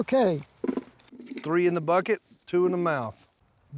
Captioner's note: soft thuds